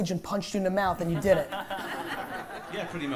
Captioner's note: laughter